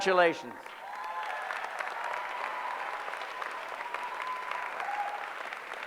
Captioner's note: applause